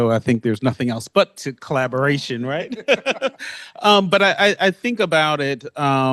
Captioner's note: laughs